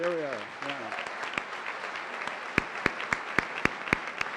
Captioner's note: applause